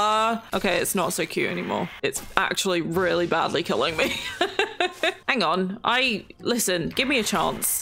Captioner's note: laughs